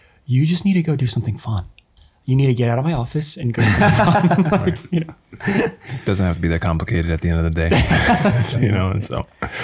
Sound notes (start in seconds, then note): 3.6 chuckles; 7.7 chuckles